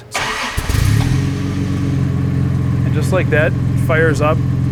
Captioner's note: car engine revving